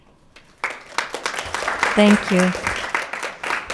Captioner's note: audience clapping